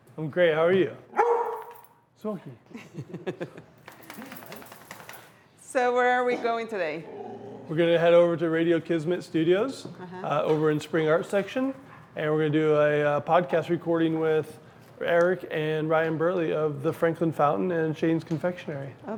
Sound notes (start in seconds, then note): 2.8 laughing; 3.8 dog shaking